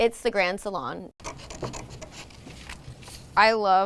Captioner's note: scissors cutting